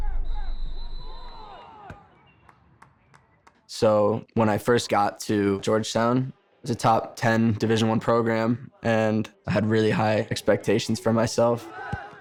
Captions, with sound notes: (whistle blows) (people yelling) So when I first got to Georgetown, it was a top 10 Division I program, and I had really high expectations for myself.